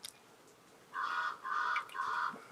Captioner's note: Cri d'un corbeau